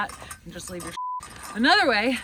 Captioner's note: beep